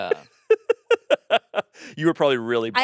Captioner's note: laughing